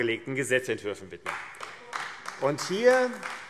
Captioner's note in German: Beifall AfD